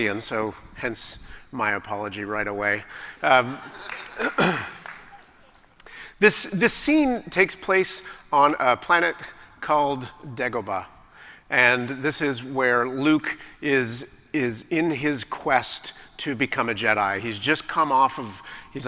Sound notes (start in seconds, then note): 3.6 laughter; 4.2 clears throat